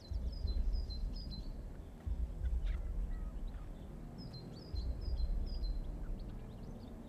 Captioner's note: birds chirping; gentle tense music